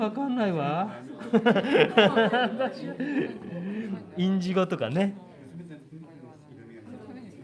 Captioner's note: 笑い